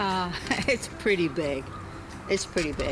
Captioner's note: laughs